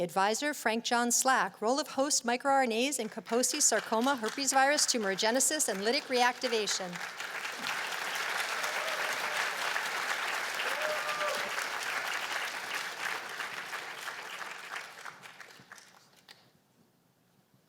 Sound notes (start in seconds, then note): 6.5 applause